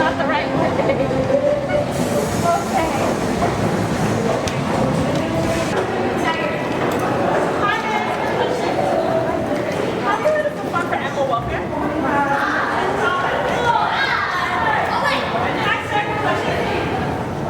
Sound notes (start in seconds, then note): 6.9 loud echoing voices and crowd sounds